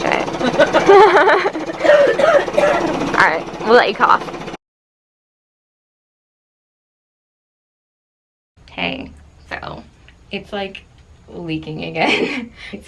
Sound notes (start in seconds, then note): 0.4 both laugh; 1.7 coughs